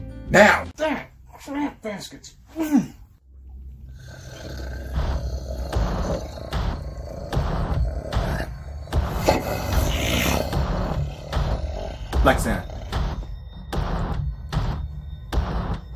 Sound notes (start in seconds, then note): 6.5 animalistic growling